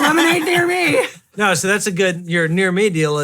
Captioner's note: laughing